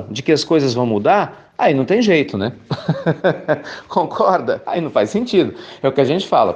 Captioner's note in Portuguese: risos